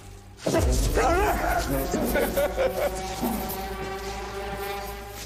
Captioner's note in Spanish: Sollozos